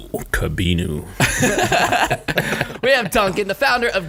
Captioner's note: all laughing